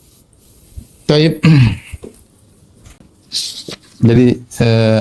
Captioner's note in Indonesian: berdehem